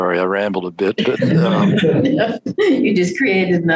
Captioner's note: group laughs